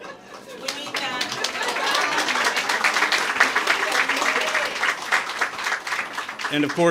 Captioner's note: applause